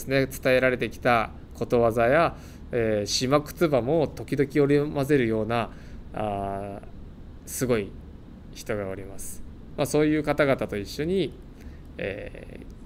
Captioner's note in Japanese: 沖縄方言